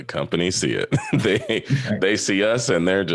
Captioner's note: chuckles